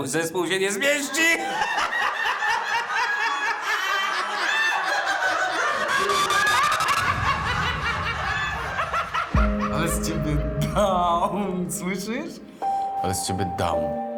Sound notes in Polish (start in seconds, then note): 3.7 Narastający śmiech wielu osób